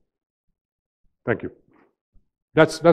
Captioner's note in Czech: V sále hrobové ticho